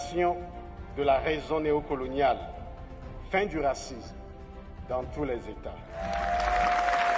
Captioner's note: applause